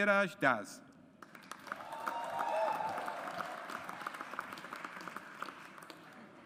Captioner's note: audience applauds